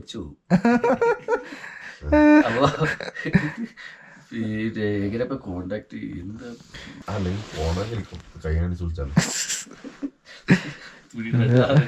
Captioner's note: laughs; casual conversation